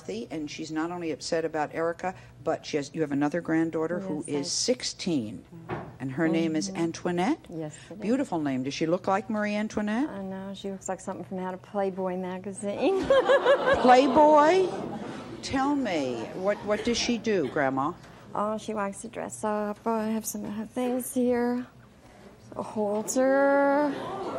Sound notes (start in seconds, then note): 13.0 laughs